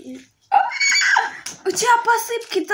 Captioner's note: dinosaur sound